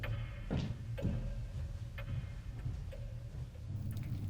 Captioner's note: footsteps thudding